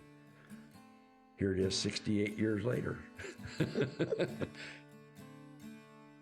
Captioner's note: laughs; gentle guitar music continues